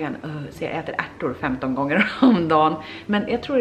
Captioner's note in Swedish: skratt